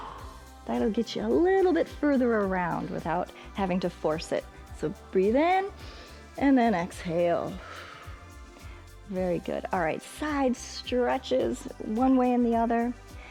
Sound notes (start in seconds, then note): 5.8 inhales; 7.5 exhales